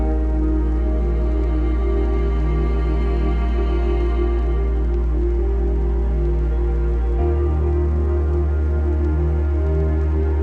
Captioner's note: Static